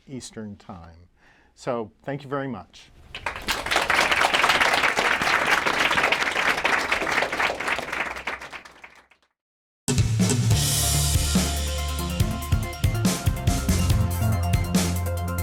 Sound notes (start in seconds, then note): 3.1 applause